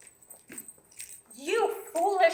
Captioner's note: bells jangling